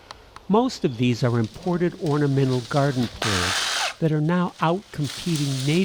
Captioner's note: power saw cutting